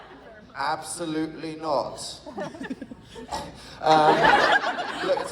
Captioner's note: coughs